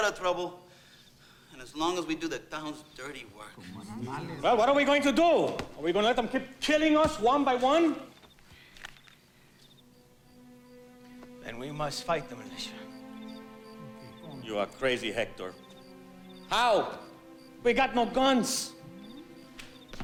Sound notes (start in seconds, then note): 3.9 overlapping chattering; 10.1 slow music